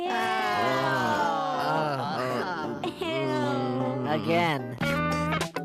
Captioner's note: all groaning